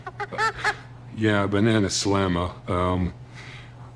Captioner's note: orangutanic Gibbering